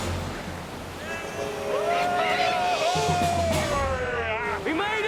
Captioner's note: men cheering